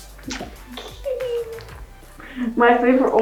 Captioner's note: giggles